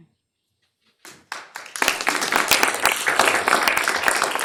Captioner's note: applause